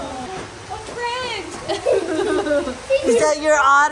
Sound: laughing

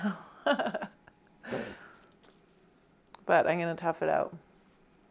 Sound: laughs

